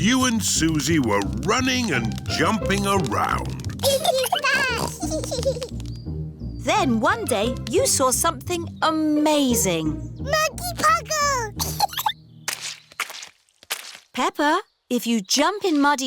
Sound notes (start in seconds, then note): 3.8 both giggling; 11.5 giggles